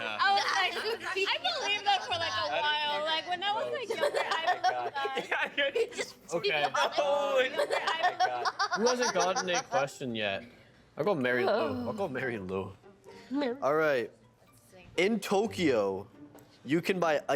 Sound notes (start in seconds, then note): 3.8 laughing